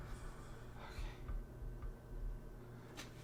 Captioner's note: gasps, whispers fade; hushed